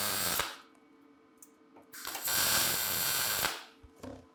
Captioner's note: sparks hissing